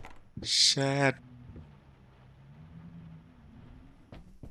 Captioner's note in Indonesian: none